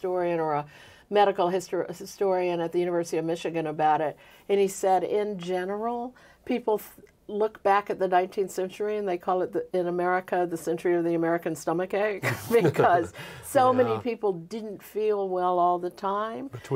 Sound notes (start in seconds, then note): 12.2 both laughing